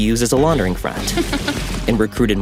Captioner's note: Ruth chuckling